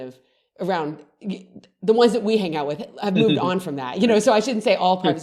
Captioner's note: laughs